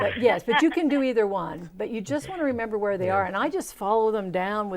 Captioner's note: laughing